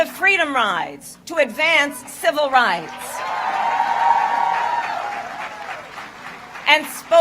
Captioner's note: applause